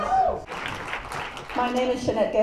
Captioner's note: applause